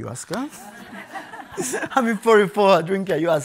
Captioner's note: people laughing